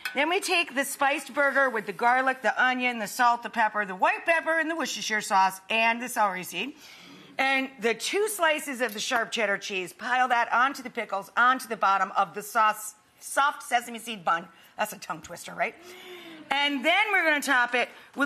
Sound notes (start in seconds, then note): none